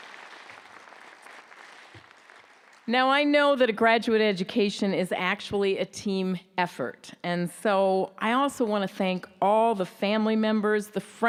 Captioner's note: applause